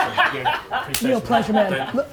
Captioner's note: laughs